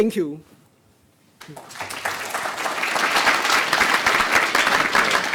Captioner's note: applause